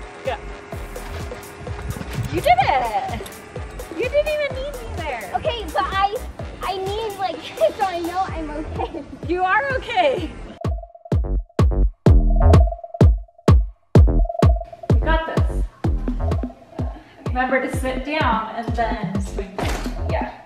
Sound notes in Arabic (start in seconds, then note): 8.7 ضحك; 10.6 تتواصل موسيقى تكنو المبهجة